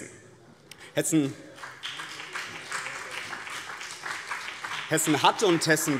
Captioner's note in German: Beifall BÜNDNIS 90/DIE GRÜNEN und vereinzelt CDU